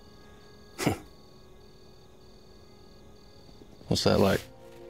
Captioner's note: Bill chuckles